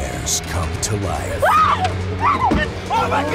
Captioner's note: woman screaming